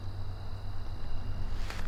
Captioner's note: bug noise